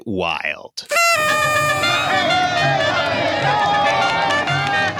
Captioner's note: party sounds